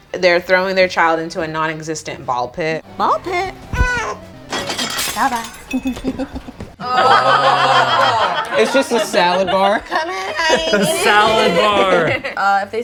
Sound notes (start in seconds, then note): 3.7 baby cries; 5.9 group laughs